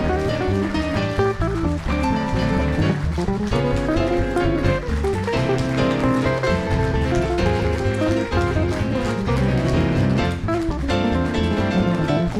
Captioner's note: applause